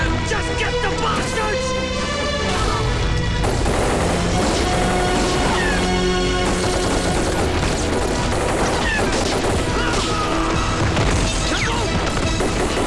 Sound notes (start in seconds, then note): 3.6 Rapid gunfire